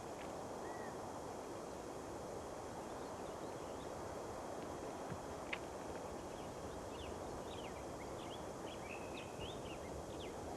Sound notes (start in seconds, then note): none